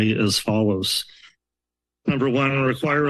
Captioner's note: pause